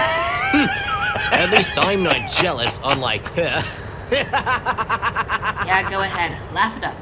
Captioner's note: laughs